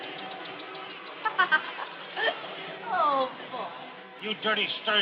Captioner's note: laughs